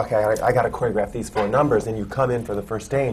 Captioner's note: none